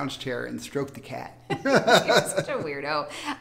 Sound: both laugh

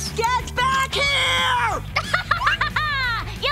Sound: laughing

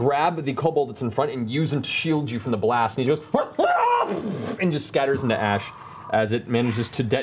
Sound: screams

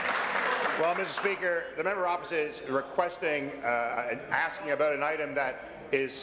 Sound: applause

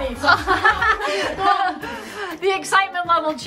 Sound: kids laughing

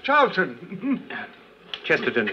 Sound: laughs

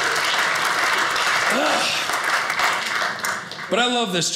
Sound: audience applauding

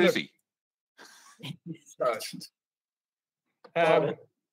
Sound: laughing

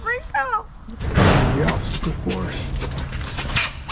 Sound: loud pounding on the barn; sneakers squeaking

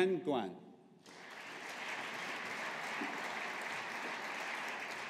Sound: audience applauding

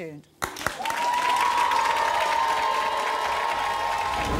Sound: audience clapping

